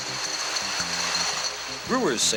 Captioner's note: bottles rattle